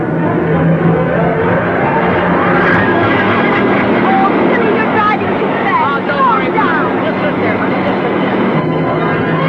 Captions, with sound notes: (car whirring) (man laughing) - Oh, Billy, you're driving too fast. - Mom, don't worry. - Slow down.